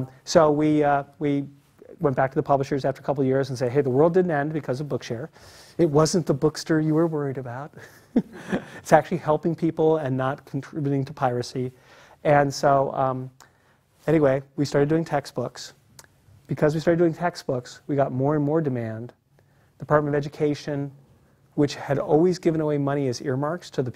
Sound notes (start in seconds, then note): 7.9 laugh